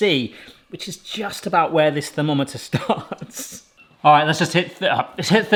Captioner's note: laughs